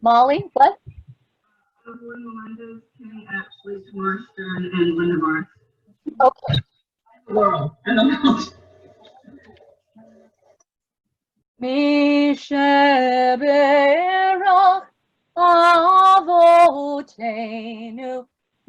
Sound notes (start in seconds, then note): 6.0 feedback crackles